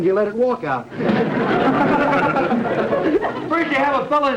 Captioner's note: audience laughter